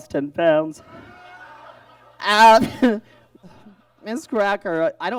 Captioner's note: audience laughs